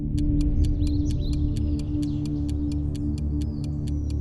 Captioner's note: birds chirping